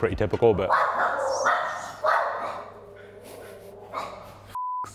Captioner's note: dog barking